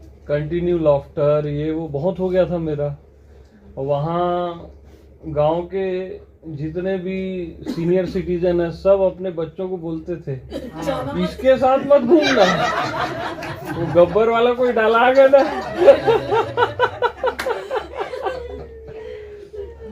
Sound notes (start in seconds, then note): 18.1 chuckles